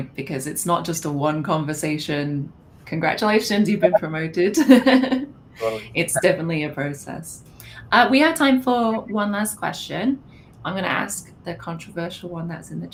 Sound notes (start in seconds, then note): 5.6 laughs